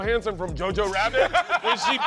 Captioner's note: laughs